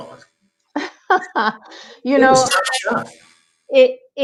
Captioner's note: laughs